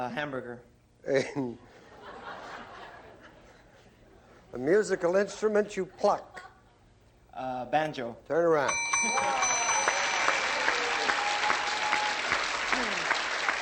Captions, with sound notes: - Hamburger. - [laughs] [laughter] A musical instrument you pluck. - Banjo. - Turn around. [dinging] [applause]